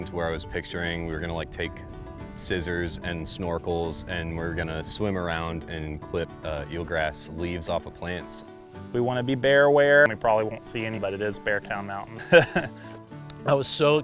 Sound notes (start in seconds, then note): 12.1 laughing